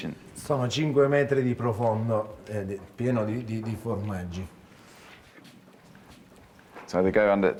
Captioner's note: speaks Italian